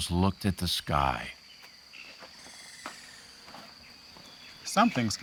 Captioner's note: birds chirping